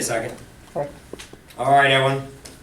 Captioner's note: voiceover